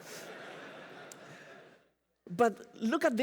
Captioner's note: laughter